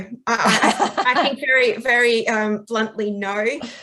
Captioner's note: laughs